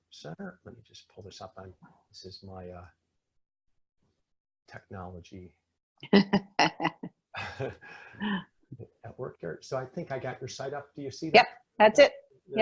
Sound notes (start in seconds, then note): 7.3 laughing